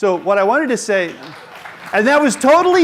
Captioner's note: applause